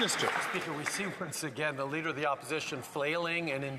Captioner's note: some Applause